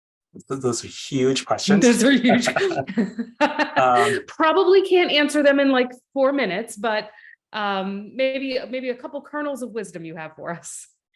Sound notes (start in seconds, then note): 3.2 laughing